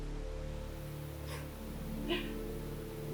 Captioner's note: laughs